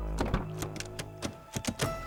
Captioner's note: clicking